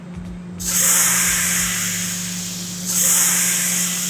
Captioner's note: oil sizzling